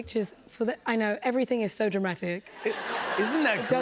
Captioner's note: laughter